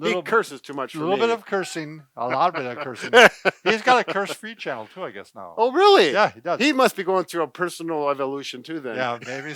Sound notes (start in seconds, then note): 2.2 laughing